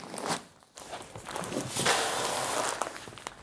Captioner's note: rustling